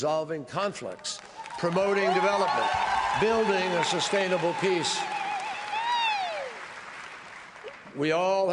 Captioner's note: applause